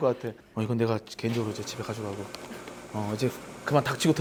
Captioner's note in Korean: 커피머신위이이이잉